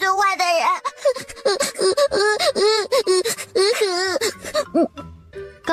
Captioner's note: scoffs